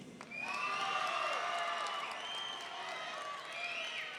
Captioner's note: audience cheering